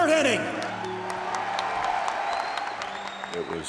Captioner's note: applause